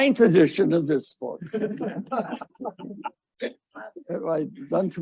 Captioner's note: audience laughing